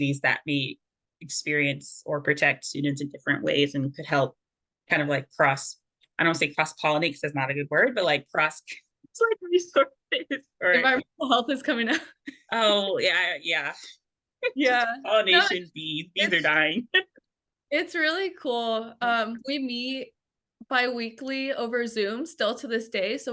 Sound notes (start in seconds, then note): 8.9 laughs